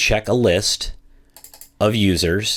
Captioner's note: computer mouse clicking